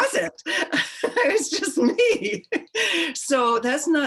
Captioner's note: laughing; laughs